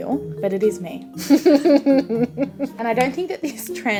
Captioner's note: giggles